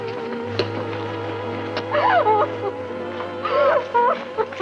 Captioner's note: sobbing